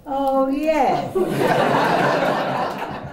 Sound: laughter

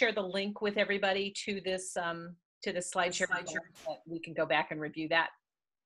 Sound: audio warps

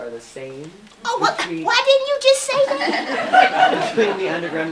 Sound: laughter

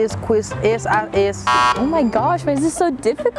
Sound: buzzer beeping

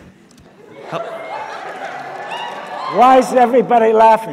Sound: audience laughs

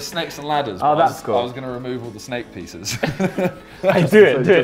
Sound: laughs

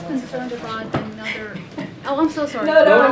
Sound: laughs

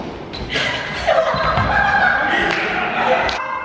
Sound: laughs

